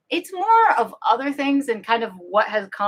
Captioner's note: none